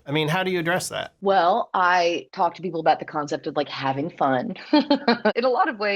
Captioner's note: laughter